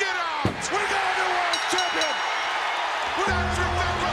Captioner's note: bell rings